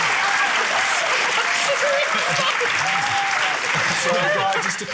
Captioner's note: cheering, applause; laughs